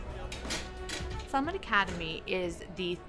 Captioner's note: chair clattering; soft smooth music